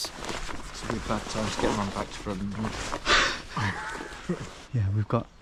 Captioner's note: chuckles